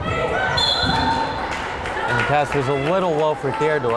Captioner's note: whistle blows